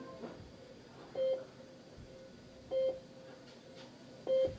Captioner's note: alarm beeping